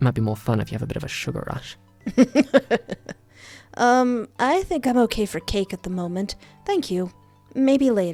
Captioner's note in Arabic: ضحك